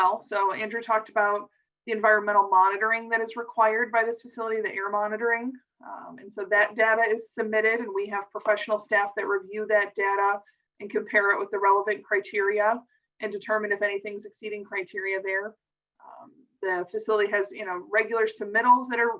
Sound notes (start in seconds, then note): none